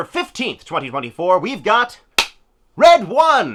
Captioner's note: clap